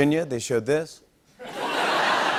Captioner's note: laughter